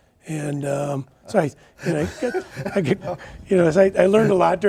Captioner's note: laughing